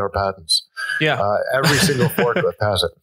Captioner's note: laughs